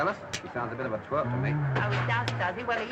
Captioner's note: humming drunkenly